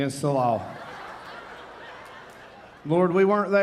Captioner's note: audience laughing